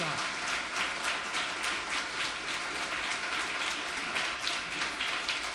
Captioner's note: audience applauds